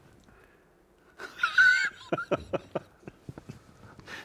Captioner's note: both laughing